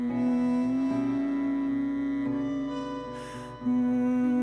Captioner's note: humming